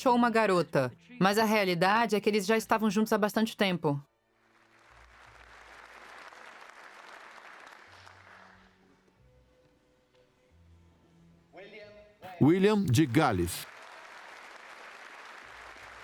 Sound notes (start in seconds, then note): 4.4 applause; 11.6 voiceover; 12.4 applause